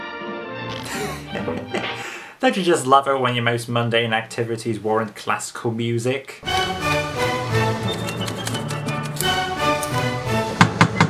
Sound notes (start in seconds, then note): 0.7 laughs; 6.4 fast-paced classical music